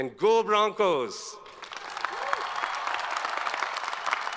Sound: all applaud

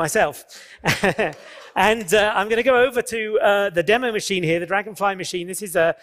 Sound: laughs

